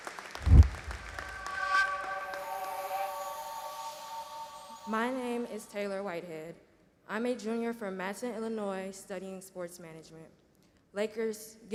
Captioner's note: applause